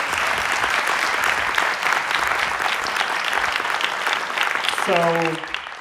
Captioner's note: applause